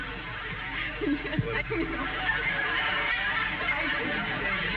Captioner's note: audience laughing; laughs